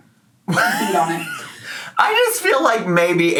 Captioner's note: chortles